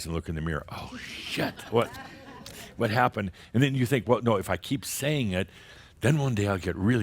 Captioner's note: more chuckles